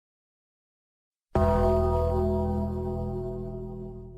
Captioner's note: funeral Gong FX